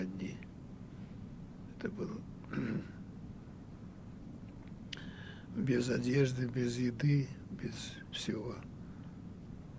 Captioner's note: clears throat